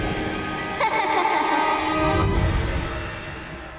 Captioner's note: laughing